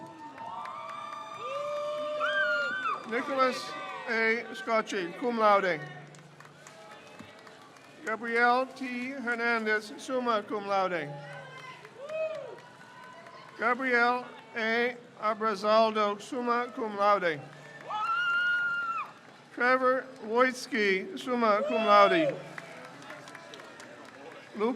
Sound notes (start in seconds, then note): 0.2 crowd cheers; 6.1 crowd cheers; 11.4 crowd cheers; 18.4 crowd cheers; 22.7 crowd cheers